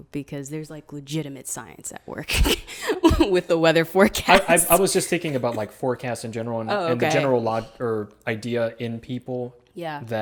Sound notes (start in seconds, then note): 4.2 laughs